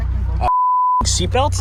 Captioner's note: high pitched beeping